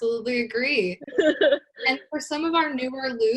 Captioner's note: laughs